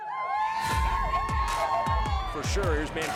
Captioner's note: people cheering